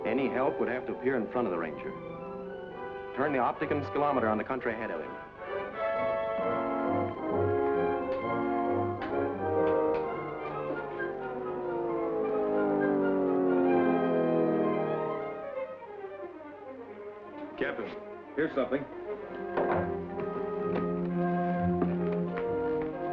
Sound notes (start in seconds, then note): 6.6 dramatic music; 12.0 opticum scillometer humming; 19.9 dramatic music